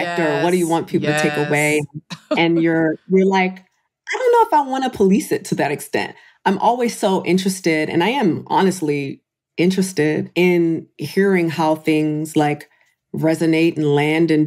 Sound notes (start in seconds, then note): 1.9 laughs